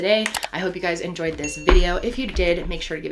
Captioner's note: keyboard clicking; bell dinging; feet thudding